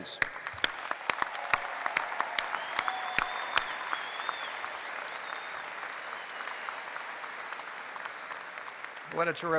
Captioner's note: applause